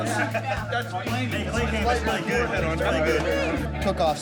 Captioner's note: people chattering